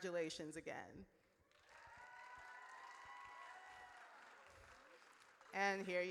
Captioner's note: audience cheers